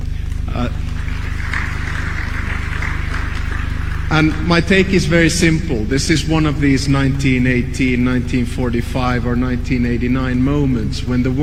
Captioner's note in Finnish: Suosionosoituksia